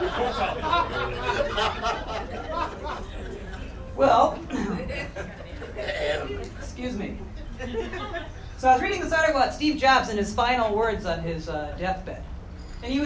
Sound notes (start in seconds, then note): 0.0 audience laughter; 0.0 crowd clapping; 4.5 clears throat